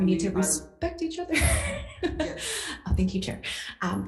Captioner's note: laughs